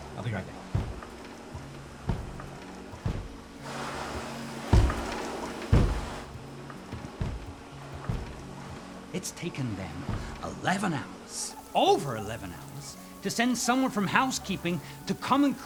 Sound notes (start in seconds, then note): 1.8 vacuum banging against door